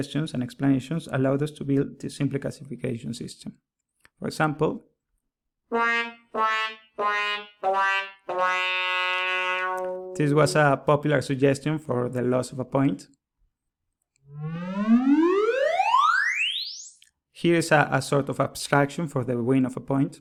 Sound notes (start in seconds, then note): 5.7 classic womp-womp or sad trombone sound